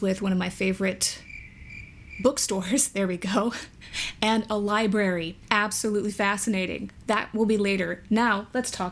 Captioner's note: crickets